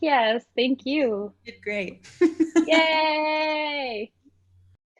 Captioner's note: laughs